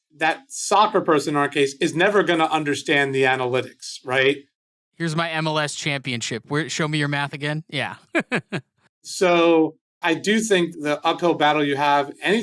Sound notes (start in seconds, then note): 7.8 laughs